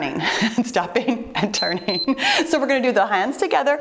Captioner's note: timer beeps